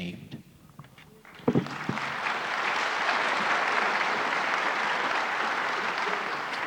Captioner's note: applause